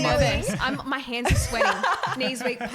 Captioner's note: laughing